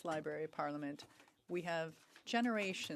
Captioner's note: speaking French